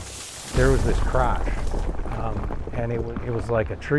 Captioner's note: tree falling